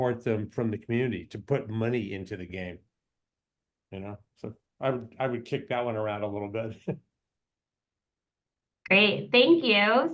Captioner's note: laughs